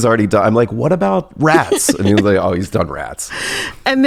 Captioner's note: laughs; laughs